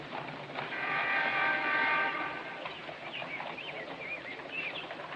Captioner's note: horn Honking